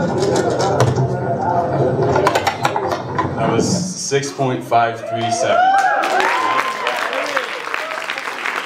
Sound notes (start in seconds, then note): 5.0 cheers, applause